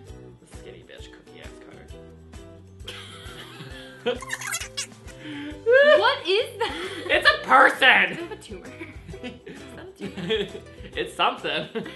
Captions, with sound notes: skinny bitch cookie ass cutter [laughs] WHAT IS THAT? IT'S A PERSON! Does it have a tumour? [laughs] it's something